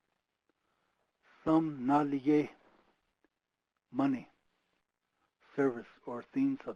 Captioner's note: speaking foreign language